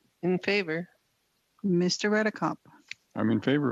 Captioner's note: speaking French